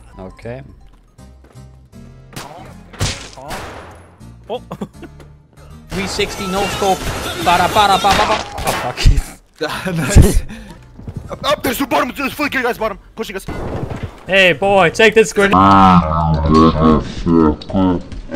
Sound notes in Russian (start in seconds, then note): 3.0 Стреляет